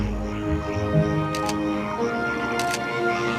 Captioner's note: camera clicks